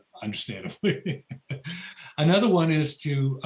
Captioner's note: laughs